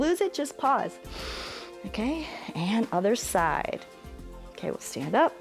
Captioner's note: inhales